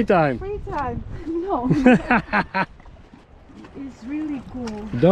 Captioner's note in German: lacht